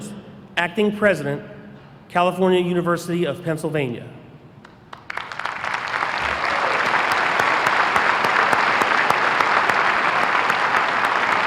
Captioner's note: applause